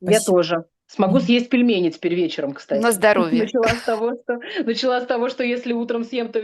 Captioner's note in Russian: смех